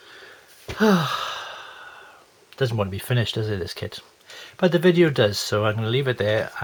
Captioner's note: sigh